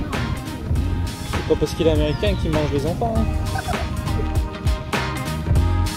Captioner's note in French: rire